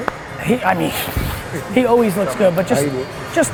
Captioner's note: sighs